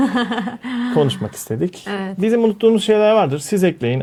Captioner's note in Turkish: kahkaha